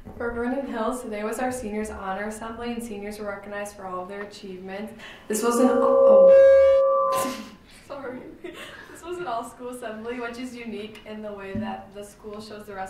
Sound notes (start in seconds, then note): 5.4 microphone squealing; 8.4 giggling